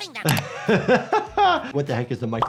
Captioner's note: laughs